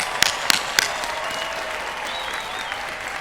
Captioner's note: cheering